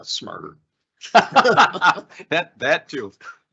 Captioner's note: both laughing